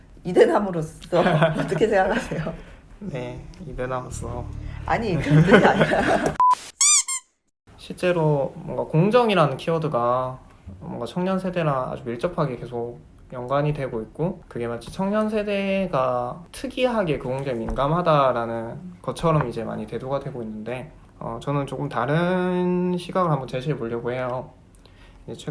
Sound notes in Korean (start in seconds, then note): 5.2 웃음; 6.4 짧은 효과음